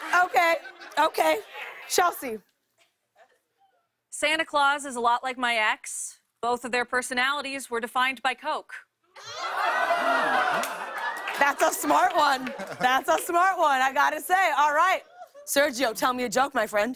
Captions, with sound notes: Okay, okay. Chelsea? -Santa Claus is a lot like my ex. Both of their personalities were defined by Coke. [ Laughter ] -That's a smart one. That's a smart one, I got to say. Alright, Sergio, tell me a joke, my friend.